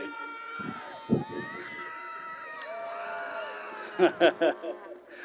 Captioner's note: cheering continues; laughing